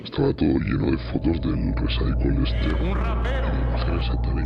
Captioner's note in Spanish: voz distorsionada